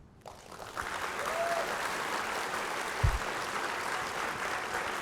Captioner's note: audience applauding